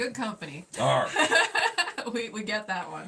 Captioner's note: laughing